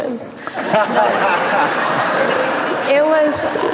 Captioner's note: audience laughing